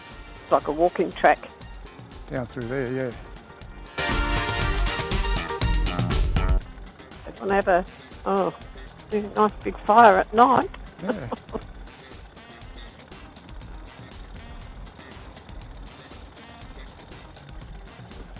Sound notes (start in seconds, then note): 15.2 laughing